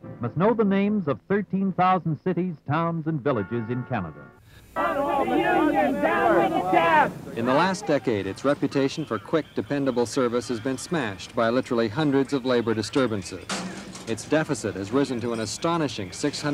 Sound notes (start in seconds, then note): 6.2 chanting